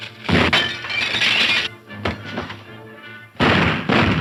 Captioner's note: fires gun; glass shatters; firing guns